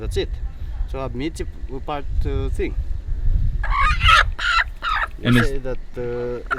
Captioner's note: speaking foreign language